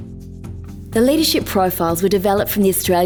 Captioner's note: voiceover